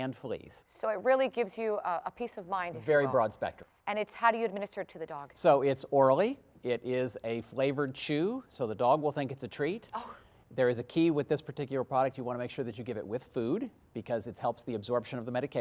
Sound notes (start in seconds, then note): none